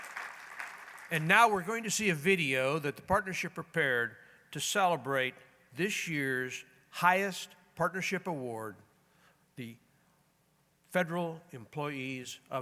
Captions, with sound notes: [applause] And now we're going to see a video that the partnership prepared to celebrate this year's highest partnership award, the "Federal Employees of